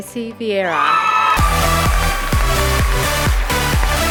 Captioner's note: applause, cheering